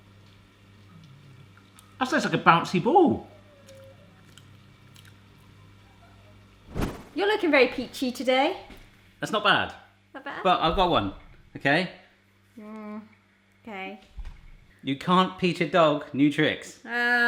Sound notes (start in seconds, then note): 3.4 wet mouth noises squelching; 6.7 whooshes